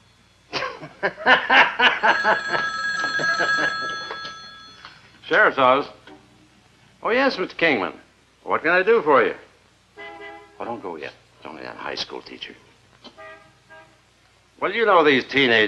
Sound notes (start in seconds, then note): 2.0 ring